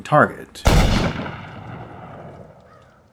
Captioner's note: gunshot